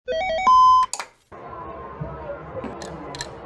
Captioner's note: video game and TV noises